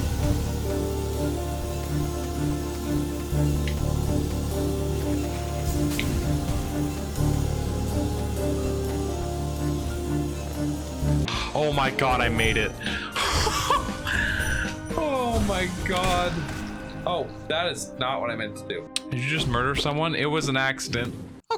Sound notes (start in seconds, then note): 11.2 gasps; 13.1 laughing